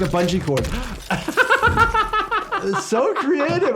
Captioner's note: laughs